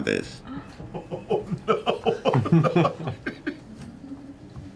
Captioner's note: laughter